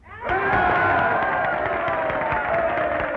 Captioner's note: cheers and applause